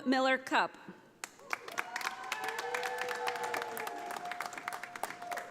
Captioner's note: audience applauding